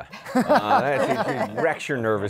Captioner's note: laughter